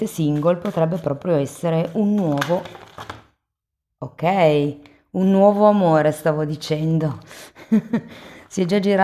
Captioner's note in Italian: risate